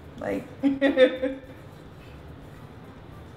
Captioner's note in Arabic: يضحك